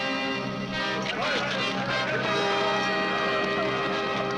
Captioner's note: all shouting